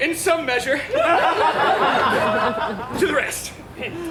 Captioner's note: audience laughs